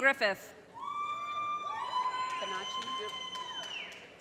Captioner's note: audience cheers and applause